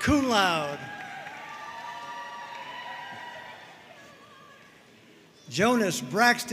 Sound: audience cheering and applauding

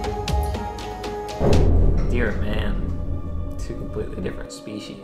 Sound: boom sound effect

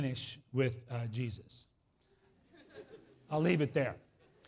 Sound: laughs

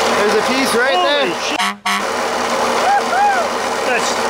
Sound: honk; hollering

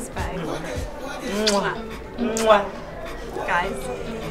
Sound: kissing

